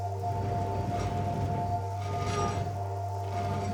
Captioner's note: door scraping